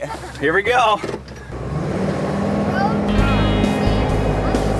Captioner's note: engine revving